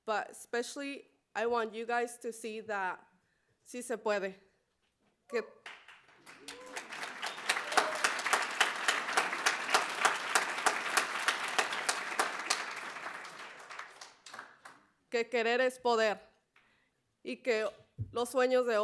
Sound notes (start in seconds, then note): 4.4 spanish speech; 6.2 applause; 13.6 spanish speech